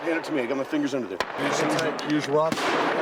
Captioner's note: gunfire